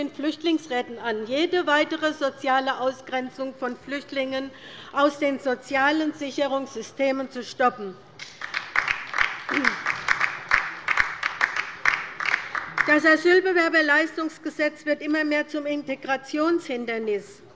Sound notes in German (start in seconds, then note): 8.2 Beifall bei der LINKEN